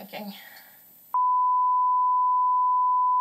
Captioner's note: TV signal tone